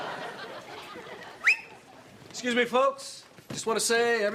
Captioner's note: whistles